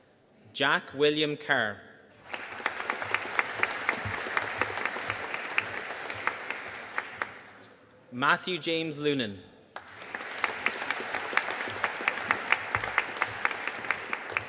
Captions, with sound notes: Jack William Kerr. (AUDIENCE APPLAUDING) Matthew James Lunan. (AUDIENCE APPLAUDING)